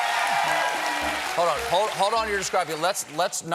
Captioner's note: cheers and applause